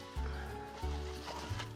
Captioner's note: laughing